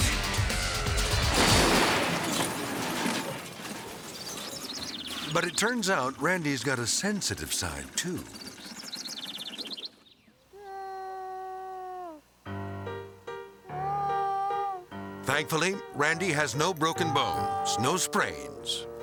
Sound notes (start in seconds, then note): 0.2 ATV crashing; 8.3 birds chirping; 10.7 crying; 10.7 light piano music